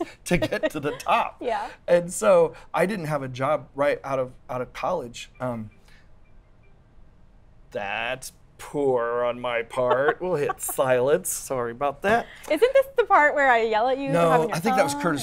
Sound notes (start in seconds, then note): 0.0 laugh; 5.6 phone rings